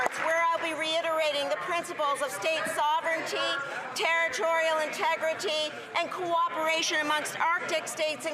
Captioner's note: some Applause